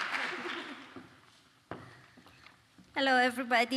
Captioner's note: applause